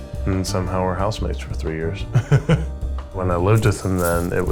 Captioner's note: chuckles